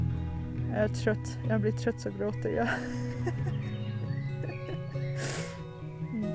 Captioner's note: laughs